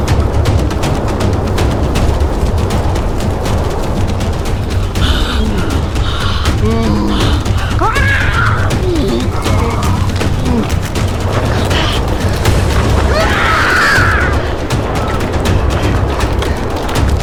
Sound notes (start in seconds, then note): 2.3 dramatic music continues; 4.7 Luna panting; 7.8 Luna yelling; 12.1 dramatic music continues; 13.5 both yelling